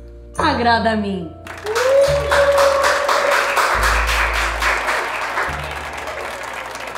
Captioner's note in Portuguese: aplausos